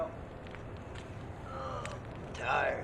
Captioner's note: groans